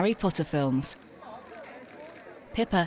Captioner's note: people chattering; cameras shuttering